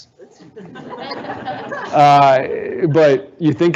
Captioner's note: audience laughing